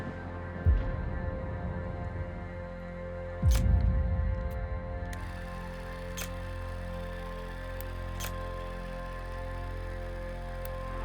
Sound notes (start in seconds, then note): 1.0 thunder crashing; 3.9 tense music; 7.9 film whirring